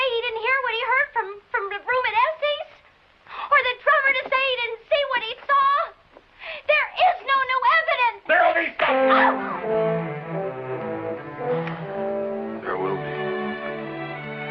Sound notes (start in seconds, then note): 8.8 slap; 10.6 dramatic music